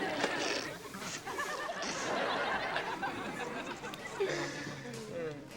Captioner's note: audience laughs